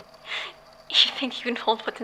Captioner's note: giggles